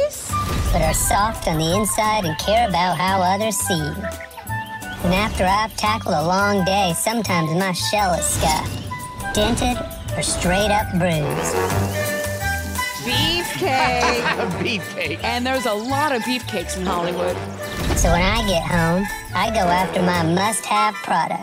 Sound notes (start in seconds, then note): 13.2 laughs